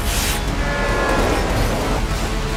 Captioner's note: train wails